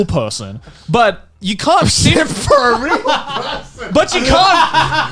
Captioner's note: laughs